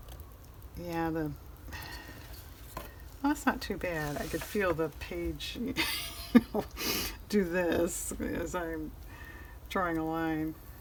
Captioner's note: laughs